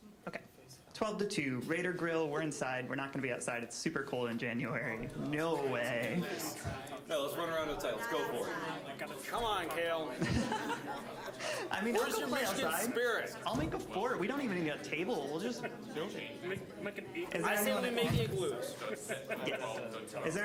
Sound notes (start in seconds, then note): 6.0 all laughing; 7.7 general chatter; 19.0 chuckling